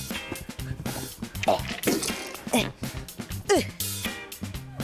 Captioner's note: grunts